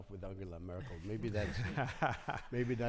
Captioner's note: panelists laughing